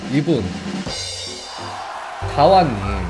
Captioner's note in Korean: 고조되는 드럼소리; 함성소리